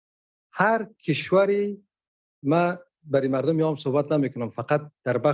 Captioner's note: speaking dari